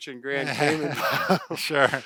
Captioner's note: laughs